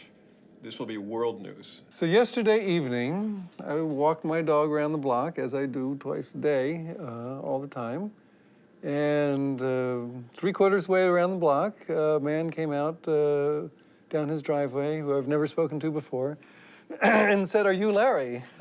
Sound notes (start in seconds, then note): none